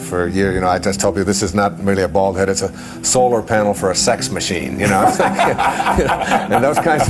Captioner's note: laughter